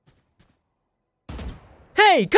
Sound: gun fires

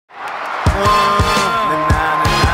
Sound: crowd cheering

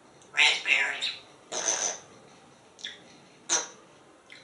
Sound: raspberry sound

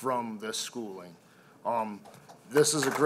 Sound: applause

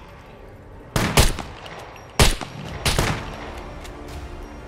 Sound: gunshots

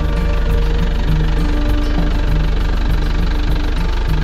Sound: engine running; upbeat music

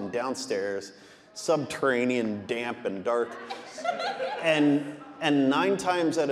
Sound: audience laughing

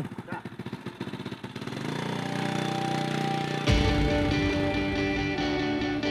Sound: motorbike engine

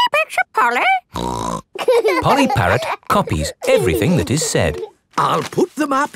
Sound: laughing

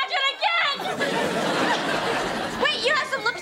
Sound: <i>crying

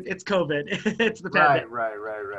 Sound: laughter

